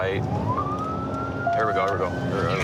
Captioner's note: sirens